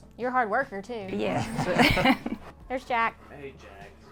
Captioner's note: all laugh